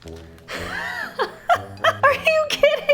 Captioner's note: whimsical music; laughs